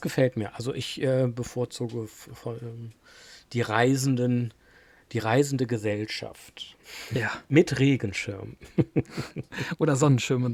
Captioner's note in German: gelächter